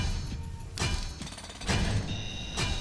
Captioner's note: drum; alarm; drum